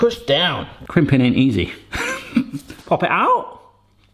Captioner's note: chuckles